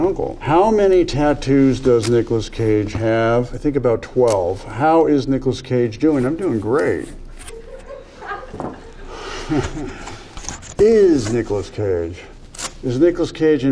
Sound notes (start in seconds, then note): 7.4 crew laughing; 9.4 Nicolas chuckles